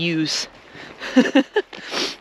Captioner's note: laughing